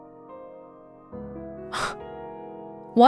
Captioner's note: exhales